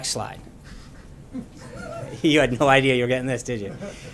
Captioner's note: laughter